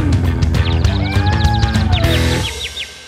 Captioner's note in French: chat miaule